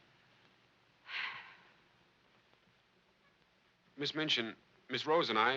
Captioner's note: Miss Minchin sighs